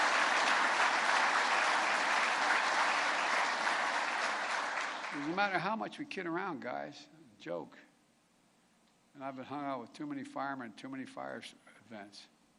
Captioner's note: applause